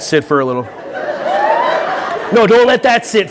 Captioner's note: audience laughing